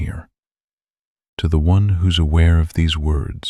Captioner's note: soft voice